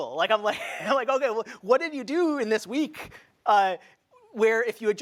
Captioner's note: laughs